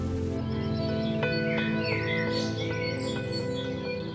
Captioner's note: birds chirping